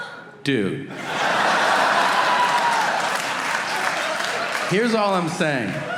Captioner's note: audience laughing